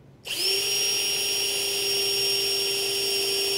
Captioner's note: drill buzzing